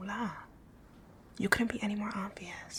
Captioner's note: whispering